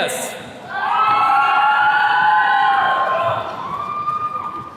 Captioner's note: attendees cheering